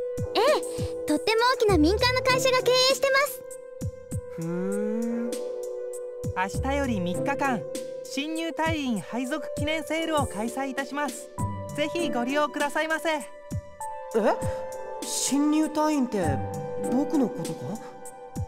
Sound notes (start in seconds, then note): 4.2 interested hum